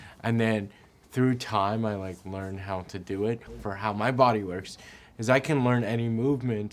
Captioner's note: none